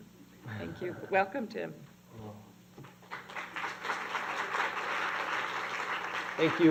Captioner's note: applause